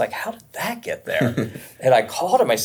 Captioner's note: laughs